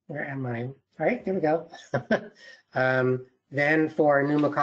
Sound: laughs

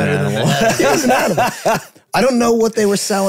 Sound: group laughing

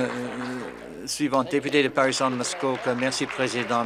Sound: applause

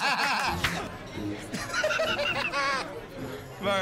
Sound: laughs

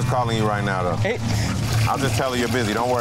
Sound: laughing

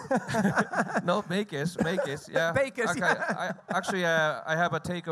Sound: both laugh; laughs

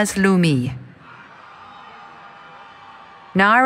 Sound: cheering

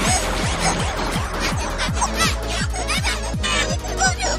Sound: crying noises

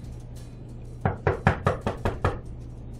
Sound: knocking gets louder

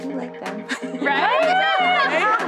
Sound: all laughing

